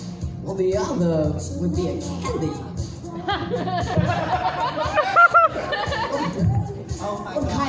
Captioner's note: audience cackles